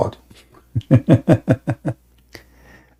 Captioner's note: Ketawa